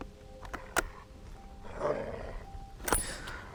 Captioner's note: rifle clacking; wolf growling; Arawn groaning